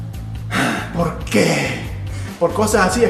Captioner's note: sigh